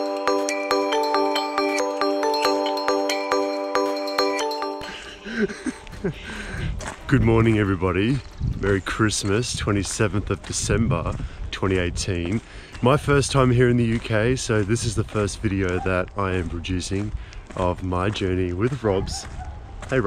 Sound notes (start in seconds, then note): 4.8 laughing